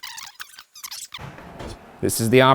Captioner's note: tape fast-forwarding; mysterious tapping